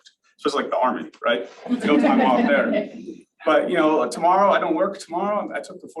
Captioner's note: layghter from audience